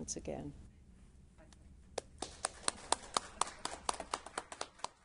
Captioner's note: audience clapping